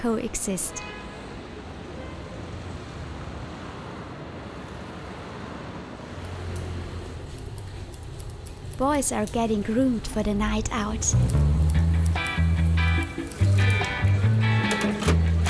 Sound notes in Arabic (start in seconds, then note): 11.2 صوت مقص